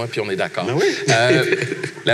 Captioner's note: laughs